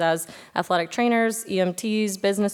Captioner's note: none